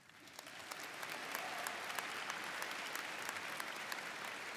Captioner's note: audience applauds